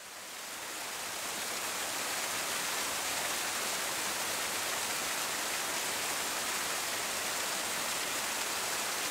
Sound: water flowing

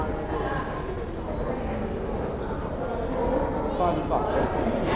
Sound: crowd chattering

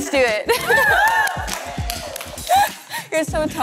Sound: all cheering

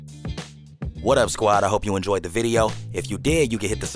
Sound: voiceover

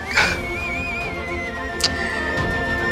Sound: laughing; lip smacks

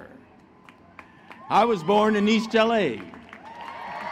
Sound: applause; foreign Language

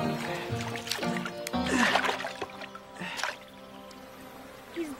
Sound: Grifffen grunts

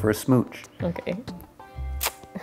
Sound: laughs

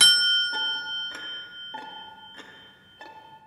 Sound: clock beeps

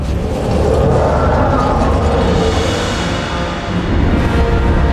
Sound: beast roaring; intense music

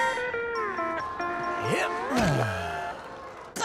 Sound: sighing

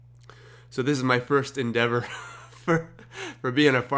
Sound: chuckles

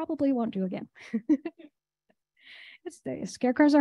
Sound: chuckling

